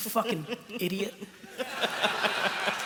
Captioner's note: laughter